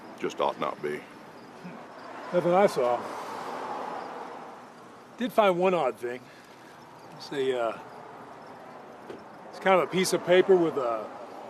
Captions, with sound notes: just ought not be. That's what I saw. [road din] I did find one odd thing. It was a uh... it's kind of a piece of paper with a...